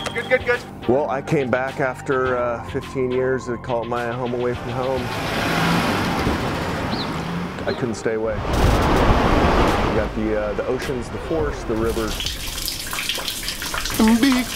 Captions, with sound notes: Well I came back after 15 years to my home away from home. I couldn't stay away. You got the ocean, the forests, the rivers. (water trickling)